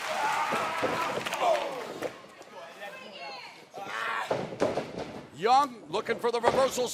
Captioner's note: crowd chatter